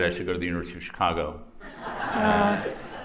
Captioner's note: laughter